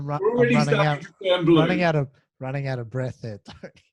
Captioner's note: laughing